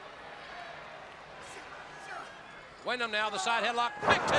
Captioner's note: crowd chatter